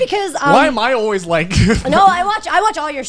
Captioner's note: laughs